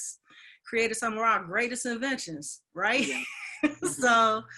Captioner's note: laughs